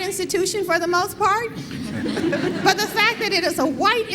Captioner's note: laughter